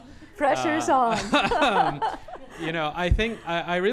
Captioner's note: laughter